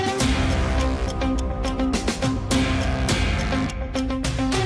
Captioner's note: timer ticking